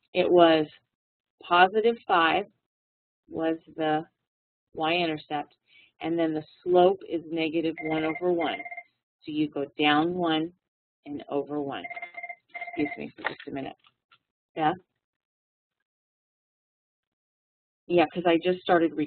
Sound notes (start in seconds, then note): 11.8 phone ringing